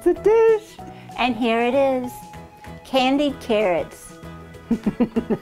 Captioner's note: voice crack; laughing